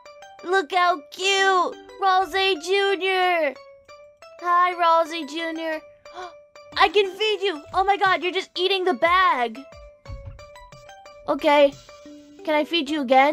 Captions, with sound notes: Aww! Look how cute! Ralsei Jr.! Hi,Ralsei Jr.! (Little gasp) I can feed you. Oh my god. You're just eating the bag! Okay, can I feed you again?